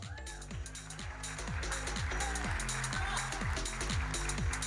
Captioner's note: audience applauding